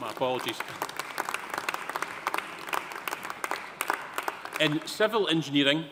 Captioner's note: audience applauding